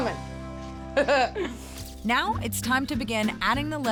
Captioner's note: laughing